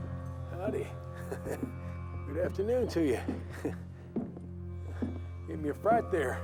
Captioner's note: laughs